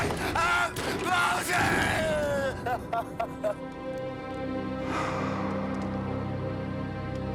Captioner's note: sobbing